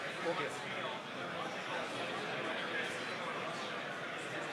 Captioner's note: indistinct chatter